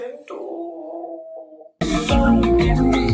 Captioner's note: moans